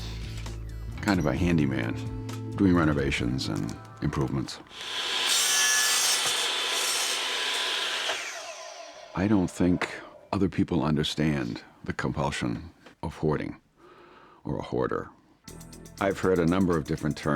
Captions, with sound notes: Kind of a handyman, doing renovations and improvements. [saw running] I don't think other people understand the compulsion of hoarding, or a hoarder. I've heard a number of different terms.